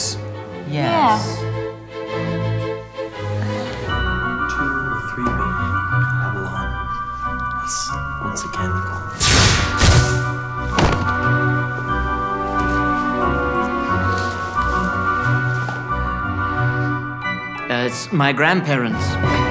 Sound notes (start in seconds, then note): 10.6 body thuds to the floor